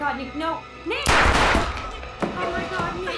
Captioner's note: gun blasts